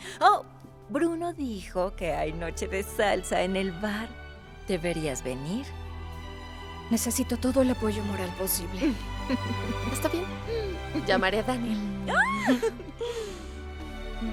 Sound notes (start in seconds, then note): 9.2 Esperanza ríe; 12.2 Todas ríen